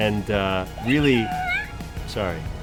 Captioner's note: toy squeaks